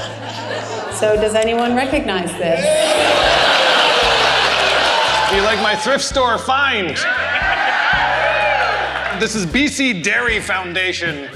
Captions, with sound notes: So does anyone recognize this? Do you like my thrift store find? (Audience Cheering) This is BC Dairy Foundation.